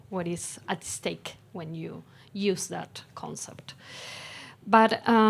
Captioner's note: none